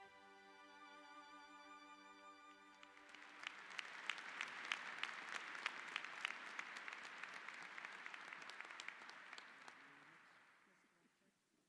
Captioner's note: applause